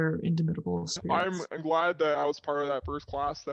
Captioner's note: distorted Voice